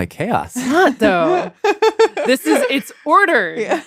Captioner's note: laughs